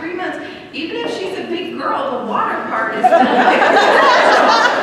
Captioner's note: laughter